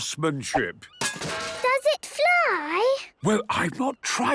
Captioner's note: distant clanging